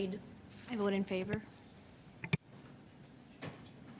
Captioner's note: speaking French